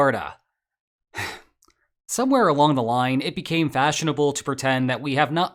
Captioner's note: sigh